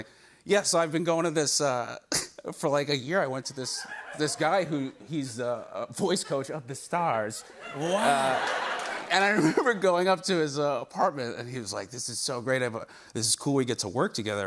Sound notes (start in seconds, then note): 7.4 laughter